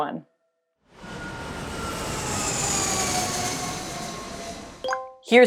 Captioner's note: jet engine